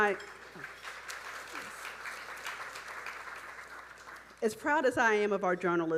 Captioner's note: audience applauding